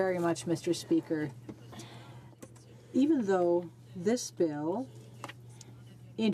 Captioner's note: speaking French